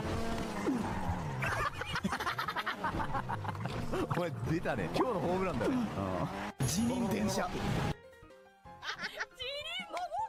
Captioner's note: laughs